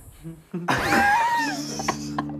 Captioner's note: laughing